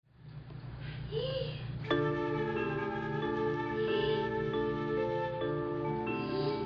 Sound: wheezing; gentle music

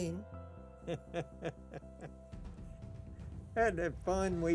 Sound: laughing

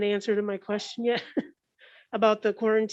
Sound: chuckles

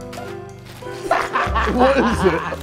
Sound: Sidemen laughing

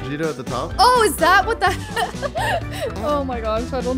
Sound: laughing amusingly

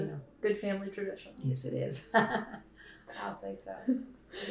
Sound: laughter

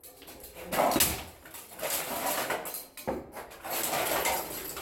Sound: whacking & clattering

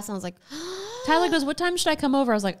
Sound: gasps

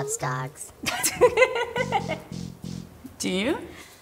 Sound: laughs

